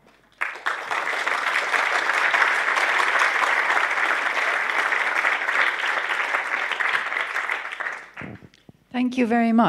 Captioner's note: applause